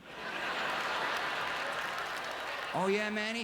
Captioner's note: audience laughter